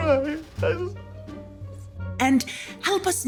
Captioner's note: crying